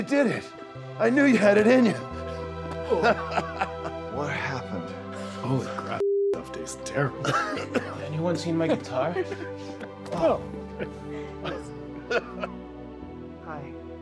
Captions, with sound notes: You did it. I knew you had it in you. (laughs) - What happened? - Holy crap, that stuff tastes terrible. (Darlus coughing) - Anyone seen my guitar? Oh, hi.